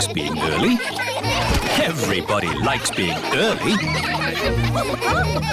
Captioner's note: laughter